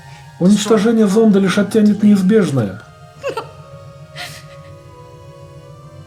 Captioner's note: sobs